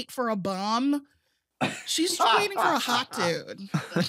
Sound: laughing; all laughing

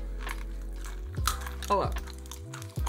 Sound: snack crunching

